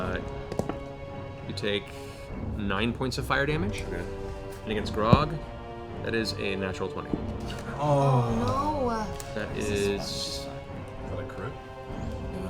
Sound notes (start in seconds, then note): 7.4 groaning